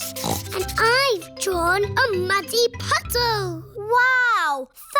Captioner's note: snorts